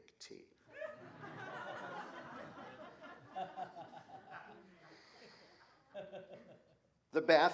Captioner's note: laughter